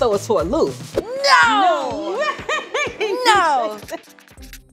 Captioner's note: laughs; light uptempo music